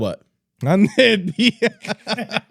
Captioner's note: laughing